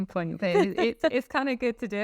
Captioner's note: laughing